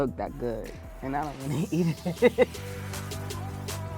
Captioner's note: laughing; upbeat music